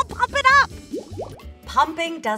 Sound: bubbles popping

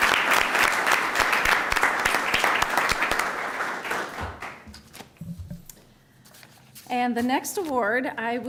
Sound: applause

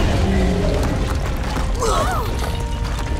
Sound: groaning

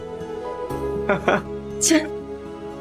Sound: chuckling

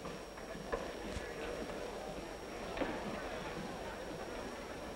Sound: chatter

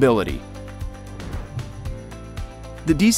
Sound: air whooshes

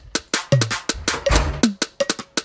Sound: door shuts

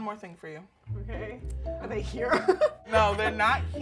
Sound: laughs

